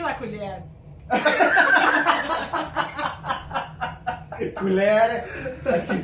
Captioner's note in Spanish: Risas